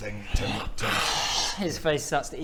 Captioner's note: hrrcchhhh